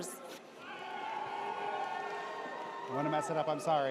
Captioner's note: audience cheers